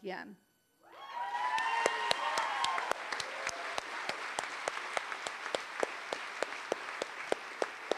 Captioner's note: applause